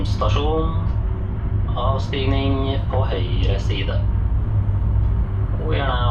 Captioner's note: train Running Sounds